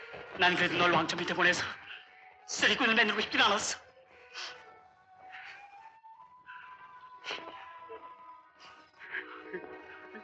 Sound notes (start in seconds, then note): 4.1 Dong-seok sobs